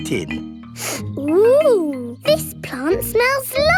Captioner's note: sniffs